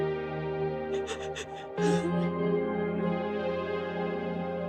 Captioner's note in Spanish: Sollozos